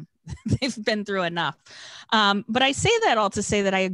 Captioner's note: chuckles